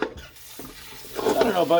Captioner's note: water sounds